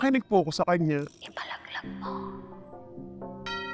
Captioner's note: whispered